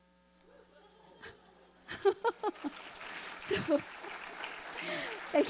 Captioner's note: audience cheering